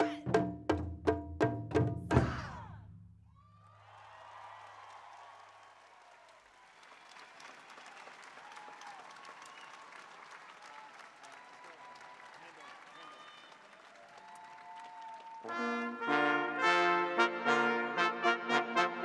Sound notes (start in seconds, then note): 3.4 cheering